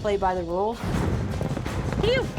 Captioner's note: horses galloping